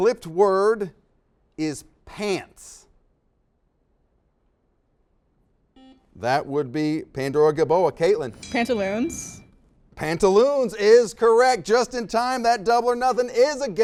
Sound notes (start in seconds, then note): 5.7 beeps; 8.3 dings